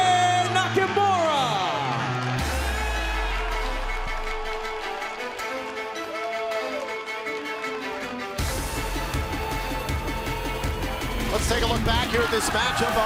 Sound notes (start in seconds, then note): 2.8 cheers and applause